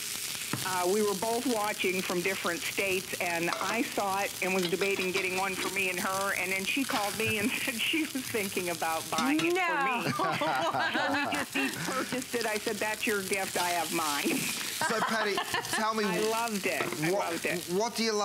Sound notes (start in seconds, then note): 14.8 laughter